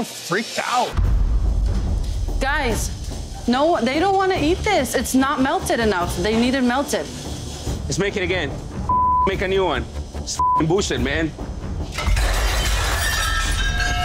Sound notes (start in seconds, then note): 1.1 suspenseful music; 8.9 beeps; 11.9 plates shattering